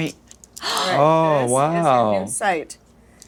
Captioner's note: gasps